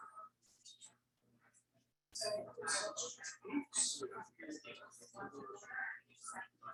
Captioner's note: people chattering indistinctly continues